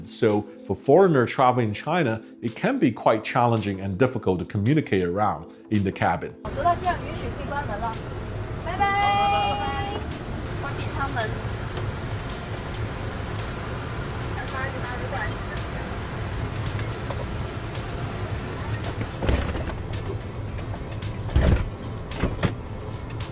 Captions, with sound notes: So for foreigner traveling China, it can be quite challenging and difficult to communicate around in the cabin. We can close the door with captain's approval. Bye-bye. Close door procedure. [airplane noise] [airplane door closing]